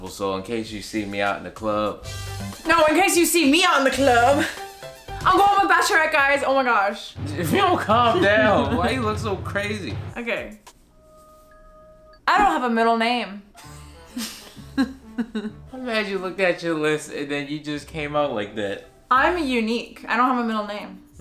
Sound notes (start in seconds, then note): 14.5 laughing